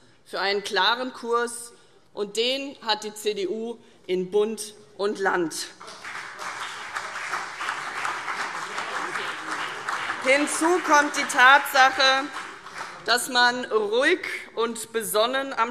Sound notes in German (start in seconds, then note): 5.8 Beifall CDU und vereinzelt BÜNDNIS 90/DIE GRÜNEN